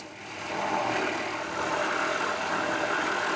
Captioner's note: machine noise